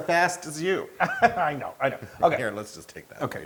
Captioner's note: laugh